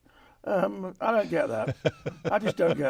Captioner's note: chuckles